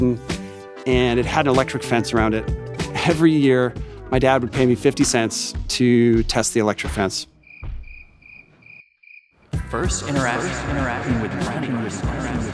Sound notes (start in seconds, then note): 7.4 crickets chirping